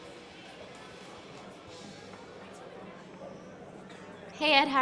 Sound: crowd chattering

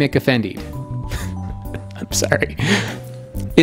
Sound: narrator laughing

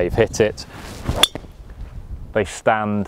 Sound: golf club smacks golf ball

